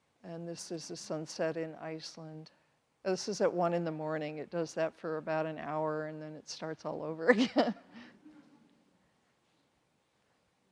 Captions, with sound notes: And this is the sunset in Iceland. This was at 1:00 in the morning, it does that for about an hour and then it starts all over again. (laughs)